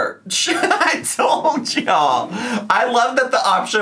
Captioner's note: laughs